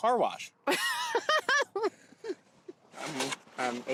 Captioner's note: Pati laughs